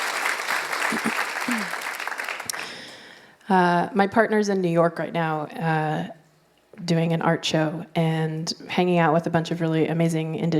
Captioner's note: applause